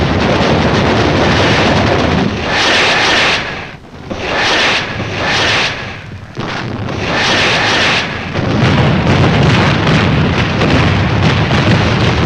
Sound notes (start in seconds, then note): 3.0 rockets firing; 9.4 guns blasting